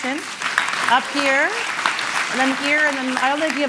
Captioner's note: applause